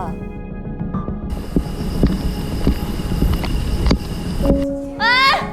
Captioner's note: step... step